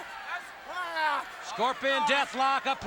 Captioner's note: crowd chatter